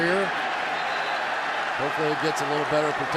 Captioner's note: cheering